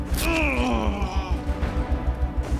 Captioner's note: Caesar groaning